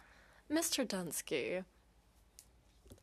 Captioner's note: speaking French